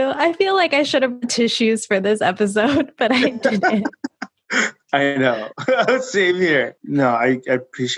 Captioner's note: laughing